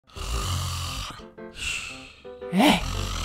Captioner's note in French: ronflement